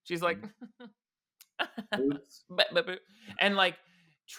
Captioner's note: laughs nonchalantly